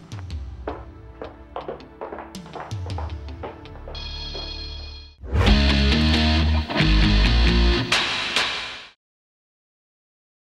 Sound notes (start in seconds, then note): 0.0 tense music; 3.8 bell rings; 5.0 upbeat music